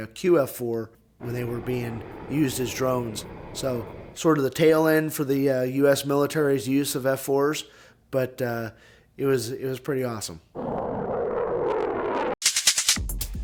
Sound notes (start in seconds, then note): 10.5 jet engine roars!; 12.3 rhythmic clicking